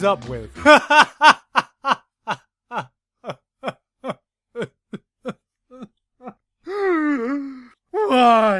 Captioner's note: laughter turns into sobs